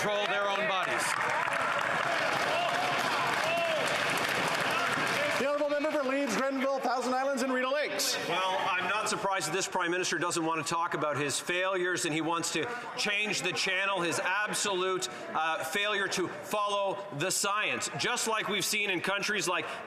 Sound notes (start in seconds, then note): 4.6 some Applause